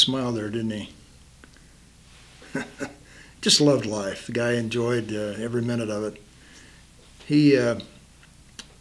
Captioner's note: chuckles